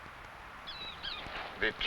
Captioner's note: bird chirping